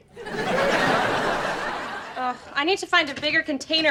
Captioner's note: laughs